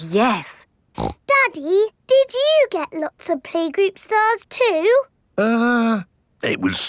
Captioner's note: snorts